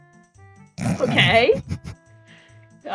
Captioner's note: snorts